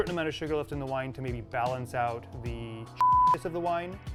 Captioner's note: beep